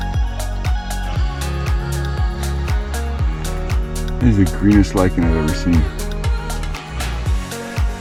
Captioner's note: wind blowing